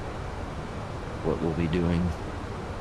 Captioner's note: radio chatter